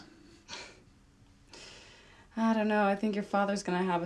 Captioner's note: scoffs